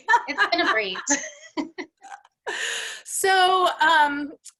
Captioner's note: laughs